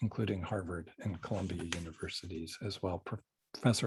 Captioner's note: pages rustling